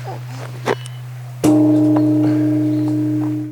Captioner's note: bell gong